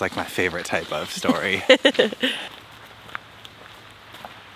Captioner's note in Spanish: riendo